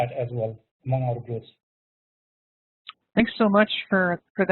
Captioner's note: murmurs